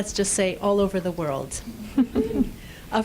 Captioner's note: laughter